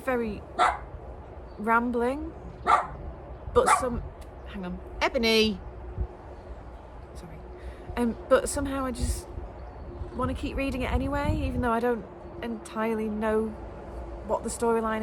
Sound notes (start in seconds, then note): 2.6 dog barks; 2.6 more barking